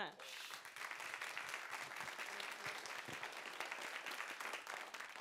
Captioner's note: audience applauds